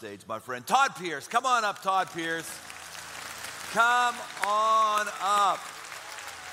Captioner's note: applause